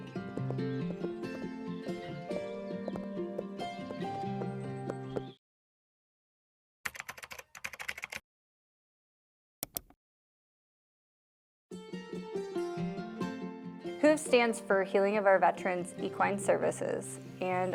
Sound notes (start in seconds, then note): 0.0 calming music; 6.5 keyboard clacking; 9.6 mouse clicks